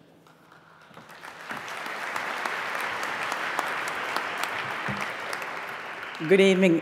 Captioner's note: applause